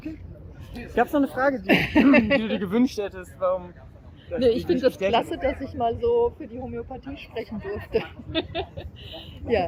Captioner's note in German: lacht